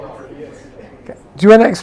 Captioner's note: audience talks